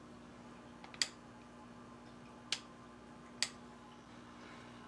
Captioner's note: light switch flicking